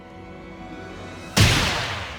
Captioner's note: a gunshot for some reason